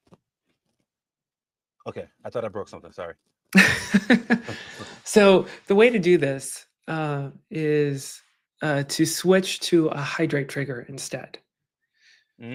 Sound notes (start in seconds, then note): 3.5 chuckles; 3.6 laugh